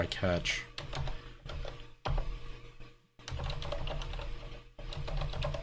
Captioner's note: keyboard keys clanking